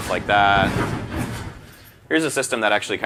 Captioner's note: air whooshing